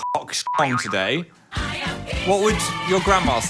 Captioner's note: beep